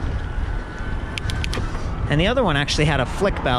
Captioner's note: gears clicking